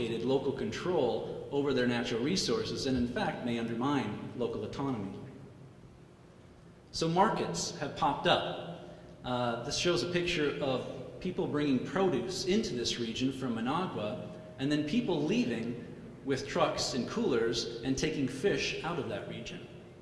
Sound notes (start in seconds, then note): none